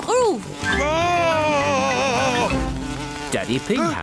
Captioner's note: screams